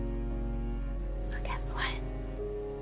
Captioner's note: whispering